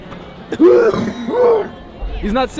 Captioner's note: extreme coughing sounds